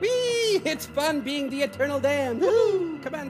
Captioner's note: mimicking airplanes